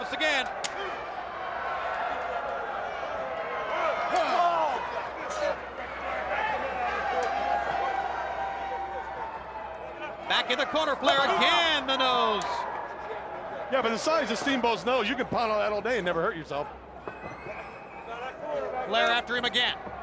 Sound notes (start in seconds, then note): 2.8 crowd chatter